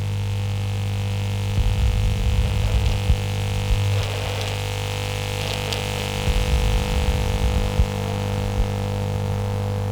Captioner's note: interference intensifies